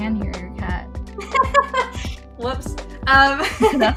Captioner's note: laughs